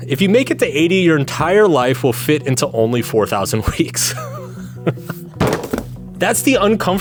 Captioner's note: laughs